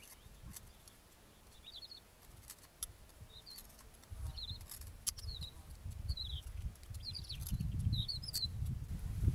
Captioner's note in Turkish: Kesme sesi ve kuş sesleri